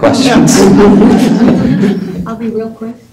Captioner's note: laughter